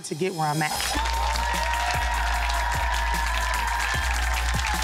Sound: audience cheering

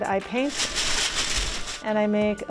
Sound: paper rustling

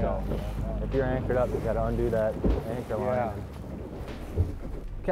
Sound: none

